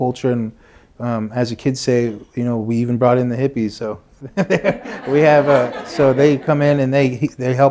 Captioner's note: laughter